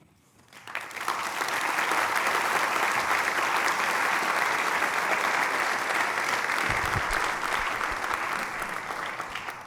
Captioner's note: applause